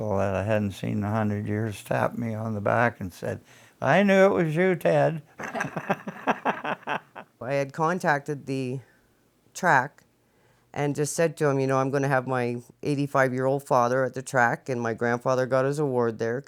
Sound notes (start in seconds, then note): 5.3 laughs